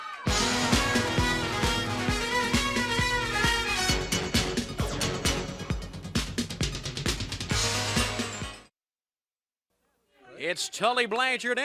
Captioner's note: crowd chatter